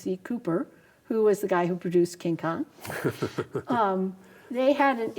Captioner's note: laughs